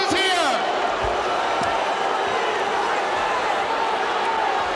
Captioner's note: audience shouting